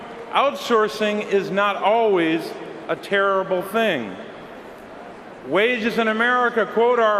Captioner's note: cheering and applause